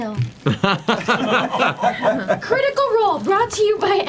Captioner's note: all laugh